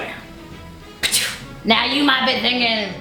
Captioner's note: western music; spits